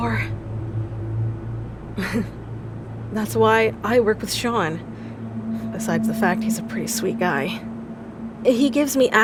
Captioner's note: pause, chuckle